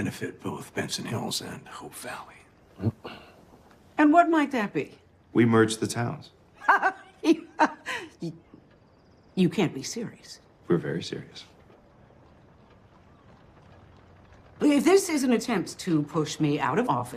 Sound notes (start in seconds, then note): 6.6 laughs incredulously